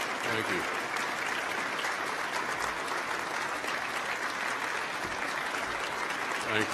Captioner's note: applause